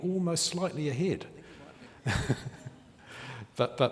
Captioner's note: laughing